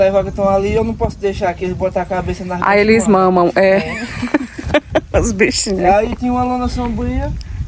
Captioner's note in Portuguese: risadas